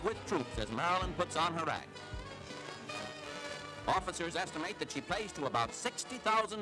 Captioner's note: crowd noise